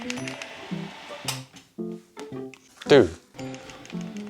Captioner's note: button clicks